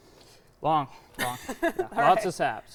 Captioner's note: laughing